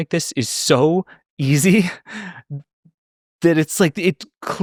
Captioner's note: laughs